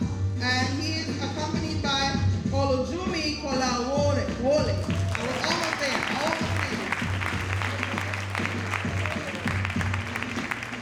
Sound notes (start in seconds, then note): 4.7 audience applauding; 5.3 faintly speaking